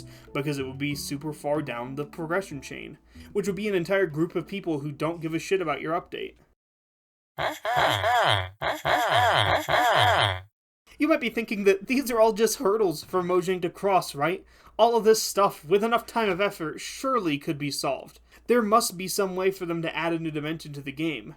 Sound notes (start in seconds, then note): 7.3 Minecraft villager trading noises